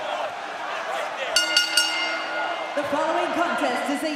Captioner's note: bell ringing